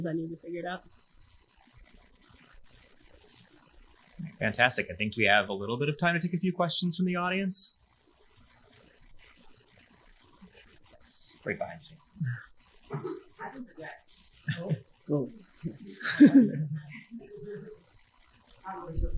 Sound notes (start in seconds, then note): 15.7 chuckling